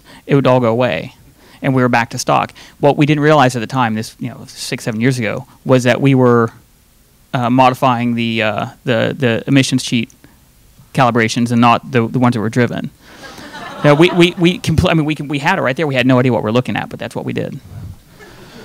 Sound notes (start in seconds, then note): 13.2 audience laughing